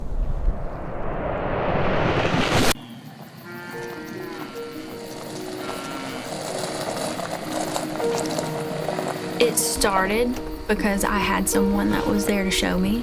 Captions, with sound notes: *cows mooing and the crunch of truck tires on gravel* It started because I had someone that was there to show me